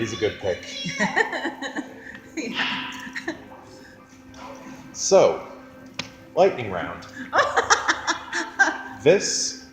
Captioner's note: laughs